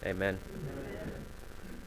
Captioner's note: crowd